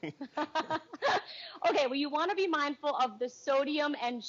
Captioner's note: laughing